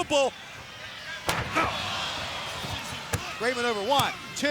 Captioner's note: body thudding